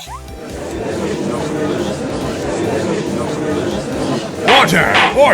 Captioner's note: gallery chattering